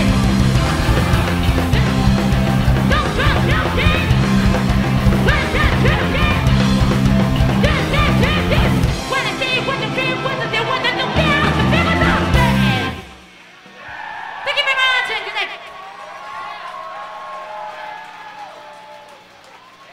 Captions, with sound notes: (electric guitar rock music) (singing in foreign language) (crowd cheering) Thank you very much and good night. (crowd cheering)